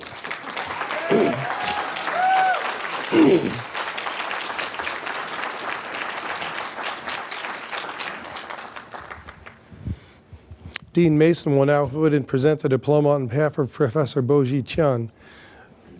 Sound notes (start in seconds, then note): 0.7 applause, cheering